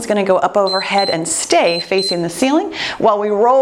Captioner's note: timer beeps